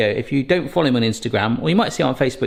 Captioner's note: none